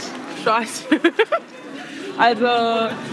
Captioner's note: laughs